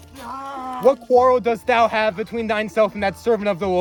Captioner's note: fighting noises